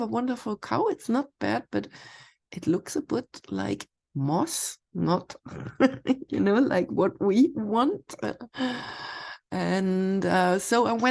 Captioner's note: laughs